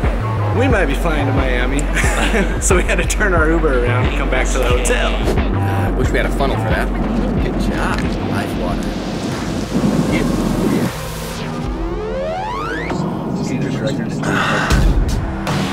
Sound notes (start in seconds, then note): 10.2 rising electronic noise; 14.2 catches breath